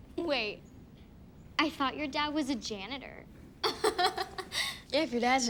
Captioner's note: laughs